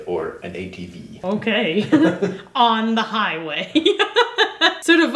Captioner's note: laughing